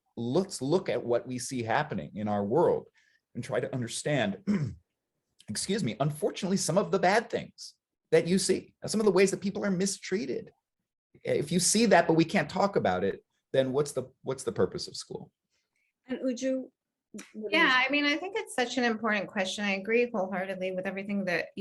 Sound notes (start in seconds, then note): 4.4 clears throat